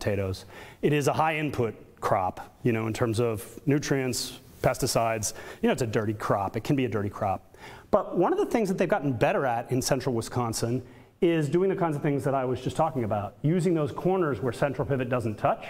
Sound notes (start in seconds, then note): none